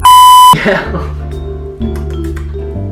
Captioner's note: beep; giggles